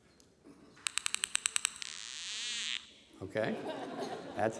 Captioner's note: clicking; squeal